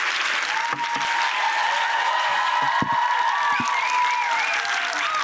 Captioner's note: audience applause